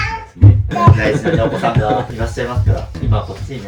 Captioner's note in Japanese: 笑い